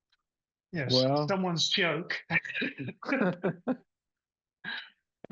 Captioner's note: laughs